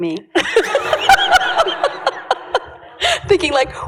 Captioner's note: laughter